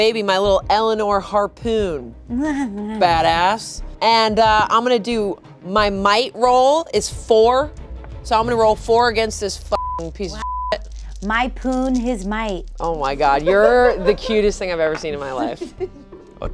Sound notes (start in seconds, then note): 9.7 beep